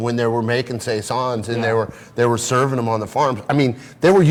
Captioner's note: none